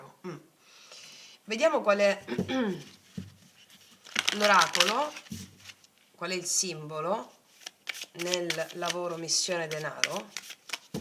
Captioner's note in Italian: schiarire la voce